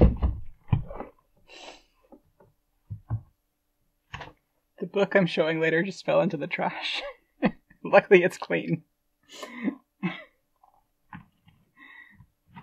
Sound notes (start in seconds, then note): 0.0 rustling, bumping sounds; 7.1 laughing; 8.6 laughing, movement